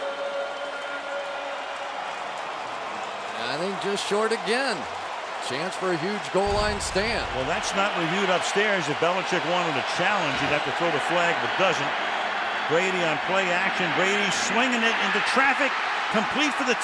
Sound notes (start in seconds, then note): 2.1 cheering